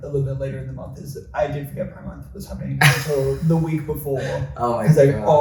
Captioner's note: laughs